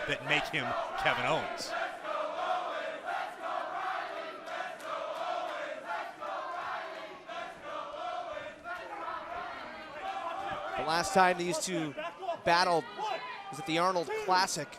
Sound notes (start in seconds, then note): 2.9 fans chanting